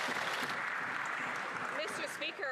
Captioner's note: some Applause